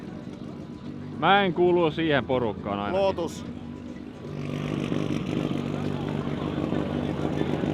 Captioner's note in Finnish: moottorin pärinää